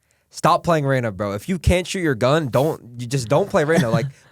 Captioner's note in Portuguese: risos